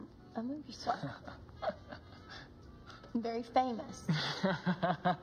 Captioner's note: Bob chuckling